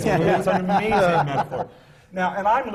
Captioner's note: laughter